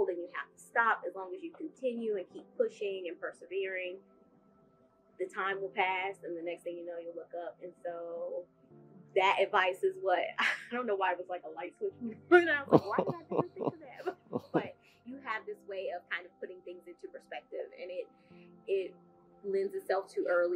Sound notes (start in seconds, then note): 12.6 laugh